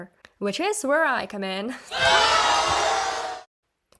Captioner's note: audience boos